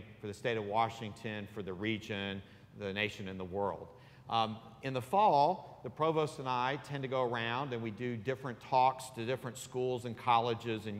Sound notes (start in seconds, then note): none